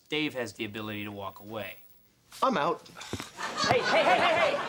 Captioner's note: scoffs